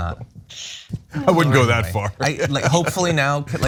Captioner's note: laugh